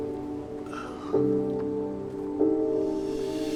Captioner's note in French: soupir